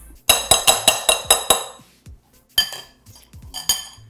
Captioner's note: metal banging